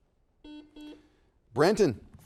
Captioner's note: buzzer dings